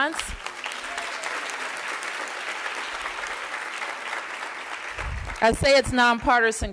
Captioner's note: applause